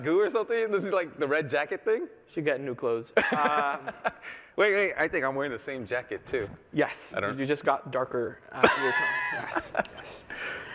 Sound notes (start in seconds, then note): 3.1 laughter